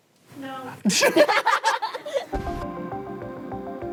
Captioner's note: laughter